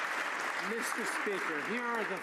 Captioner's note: some Applause